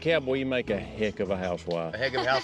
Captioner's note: everybody laughs